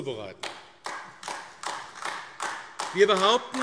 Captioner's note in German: Beifall AfD